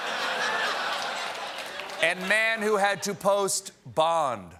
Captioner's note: laughter